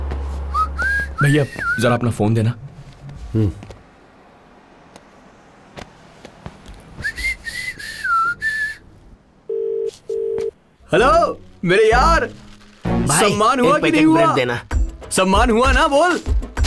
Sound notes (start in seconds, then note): 6.9 whistling; 9.5 phone ringing